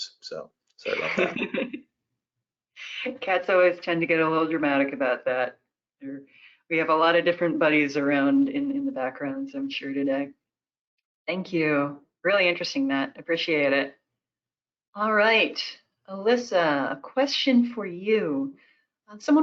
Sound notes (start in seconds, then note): 0.8 laughs